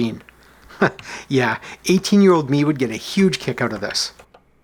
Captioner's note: chuckles